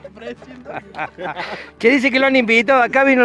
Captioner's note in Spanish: Risas y más risas